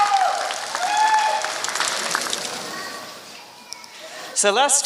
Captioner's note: applause